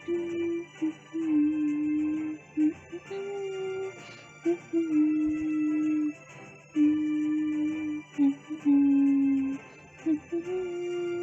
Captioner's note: humming to background music